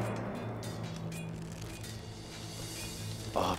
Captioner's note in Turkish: Kılıç sesleri